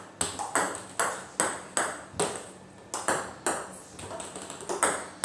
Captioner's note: ball ping pong hitting continues